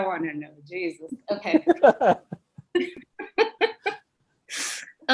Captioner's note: both laughing loudly